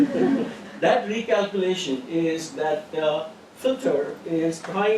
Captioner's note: laugh